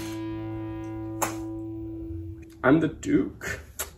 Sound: kiss

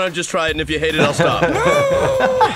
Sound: laughing

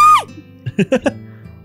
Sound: cackles

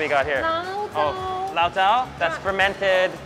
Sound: both speak Mandarin

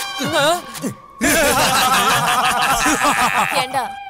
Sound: laughs

